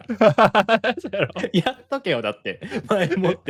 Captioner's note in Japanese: 笑い